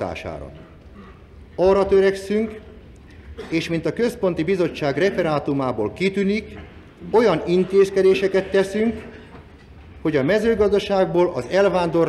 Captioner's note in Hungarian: Köhög